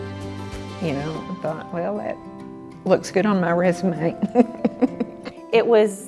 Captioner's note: laughs